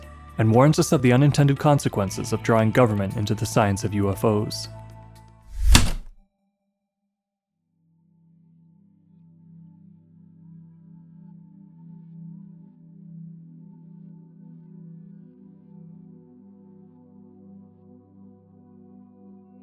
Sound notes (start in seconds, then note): 5.6 typewriter keystroke